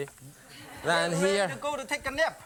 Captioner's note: laughter